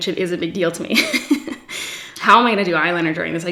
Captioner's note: laughs